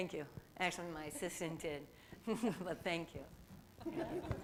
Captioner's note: laughter